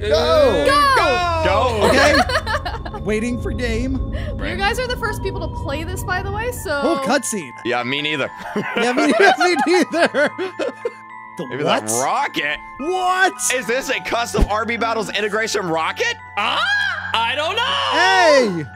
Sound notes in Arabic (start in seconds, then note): 1.8 تضحك; 3.1 موسيقى مشؤومة; 8.3 يضحك